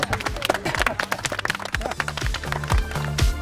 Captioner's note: clapping